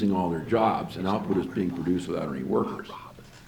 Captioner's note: men whispering in background